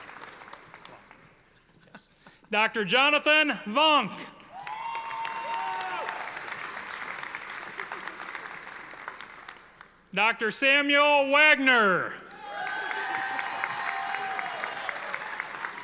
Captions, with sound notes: Dr. Jonathan Vonk. (audience applauding) Dr. Samuel Wagner. (audience applauding)